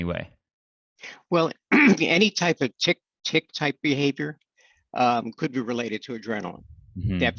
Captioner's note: clears throat